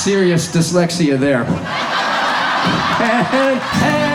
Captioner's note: audience laughs